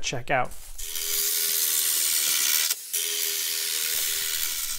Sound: drill whirring

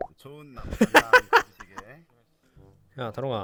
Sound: laughs

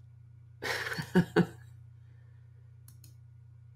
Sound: laughs

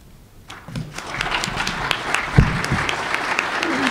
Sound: applause

